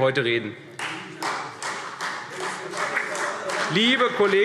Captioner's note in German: Beifall CDU und BÜNDNIS 90/DIE GRÜNEN